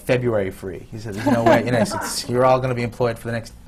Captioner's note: laughter